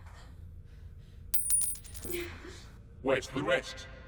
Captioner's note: coins clinking